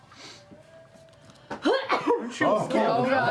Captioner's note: sneezes